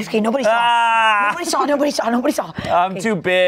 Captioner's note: yells